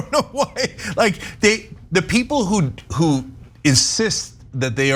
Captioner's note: laugh